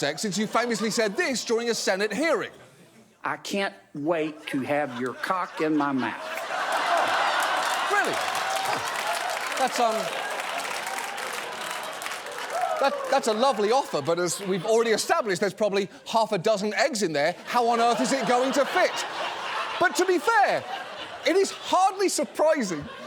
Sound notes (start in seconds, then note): 6.6 audience laughing; 10.5 audience applauding